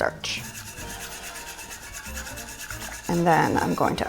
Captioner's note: whisks